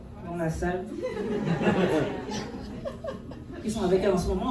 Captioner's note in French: rires